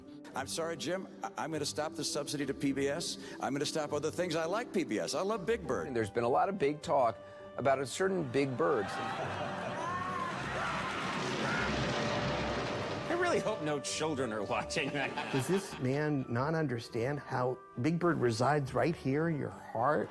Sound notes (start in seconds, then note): 8.7 squealing; 8.8 laughing